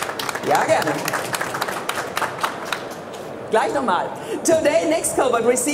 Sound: audience applauds; speaking in foreign language

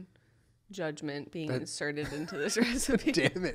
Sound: laughter

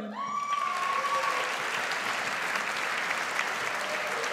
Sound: audience applauds

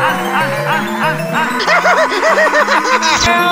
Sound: laughs

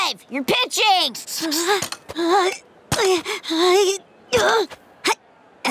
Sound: whimpering; grunting

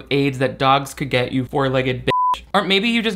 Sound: beep

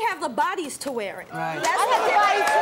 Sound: audience clapping

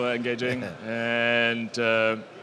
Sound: laughs

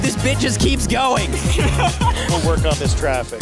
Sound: laughing

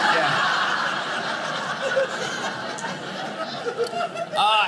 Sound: audience laughing

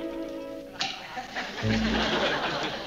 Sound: champagne pop

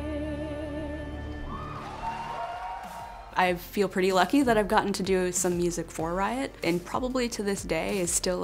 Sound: crowd cheers

